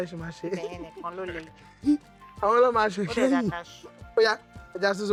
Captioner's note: laughs